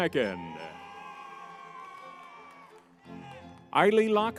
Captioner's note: crowd cheering